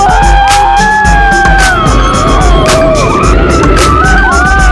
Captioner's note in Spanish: carcajadas